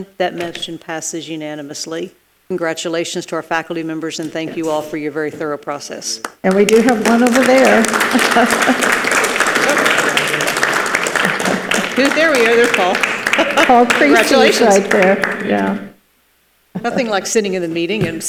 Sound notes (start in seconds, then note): 7.8 participants clap; 8.1 laughs